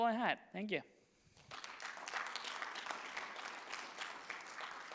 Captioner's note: audience clapping